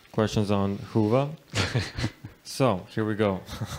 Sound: laughs

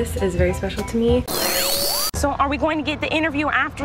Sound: buzzing

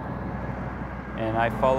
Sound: truck driving

